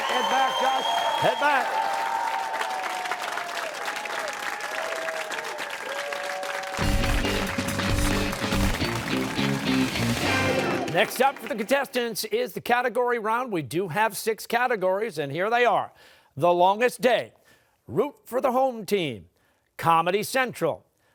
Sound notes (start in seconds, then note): 1.9 cheers and applause